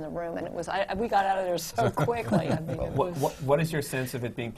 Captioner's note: laugh